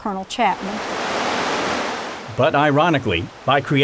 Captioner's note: water flowing